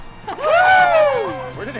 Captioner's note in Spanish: aclamaciones